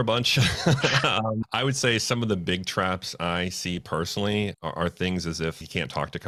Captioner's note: laughs